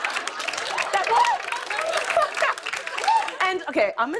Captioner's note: laughter and applause; laughter